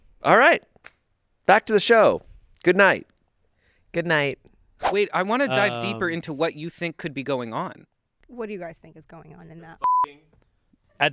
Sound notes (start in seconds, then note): 4.3 screen whooshes; 9.8 beep